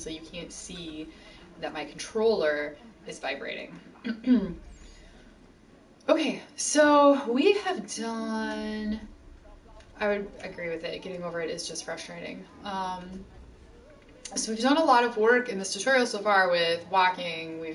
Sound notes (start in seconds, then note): 4.0 clears throat